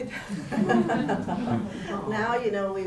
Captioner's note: laughs